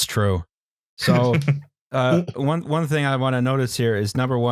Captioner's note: chuckles